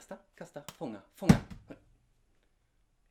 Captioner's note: thud!